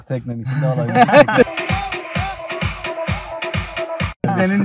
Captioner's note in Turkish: kahkaha